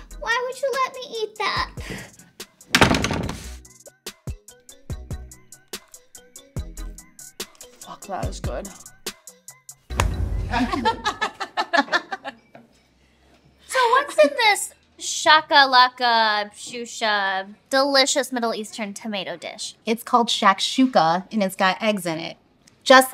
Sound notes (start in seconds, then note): 10.4 laughing